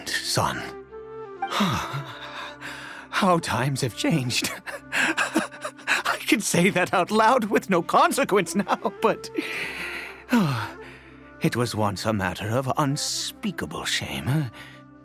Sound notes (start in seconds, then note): 1.5 sigh